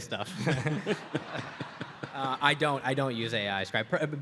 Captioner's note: audience laughs